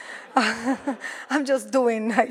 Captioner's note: audience laughs